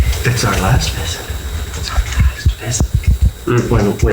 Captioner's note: whispering